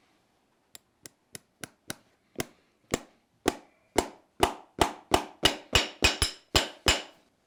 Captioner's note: hammer blows to drive in the nail